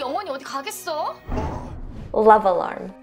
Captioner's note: air whooshing